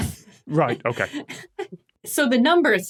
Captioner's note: giggles